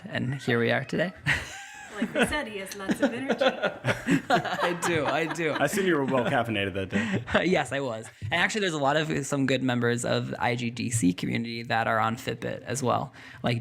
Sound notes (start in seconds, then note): 1.2 all laughing; 1.2 laughs